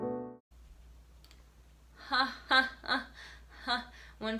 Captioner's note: soft piano music; flat laughter